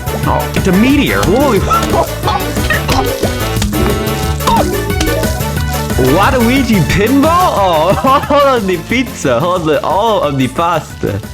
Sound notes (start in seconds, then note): 1.8 laughs to myself; 4.4 laughs to myself